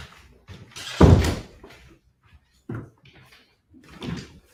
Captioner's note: footsteps tapping; object thuds